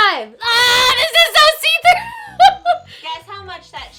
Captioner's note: laughs